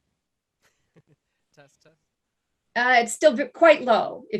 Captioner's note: chuckles